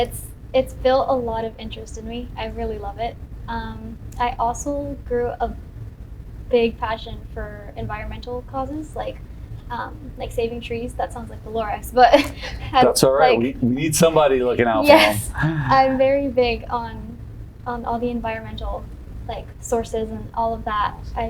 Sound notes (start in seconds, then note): 13.3 laughs